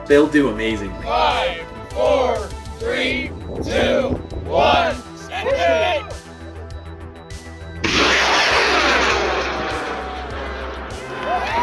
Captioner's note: cheering